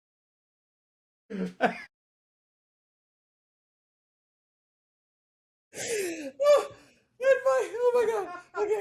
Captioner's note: laughing